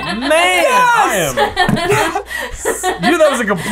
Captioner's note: laughter